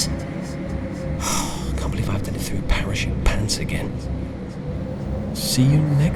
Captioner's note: sigh